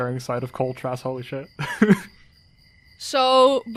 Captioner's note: laughs